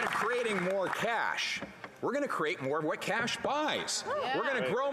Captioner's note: applause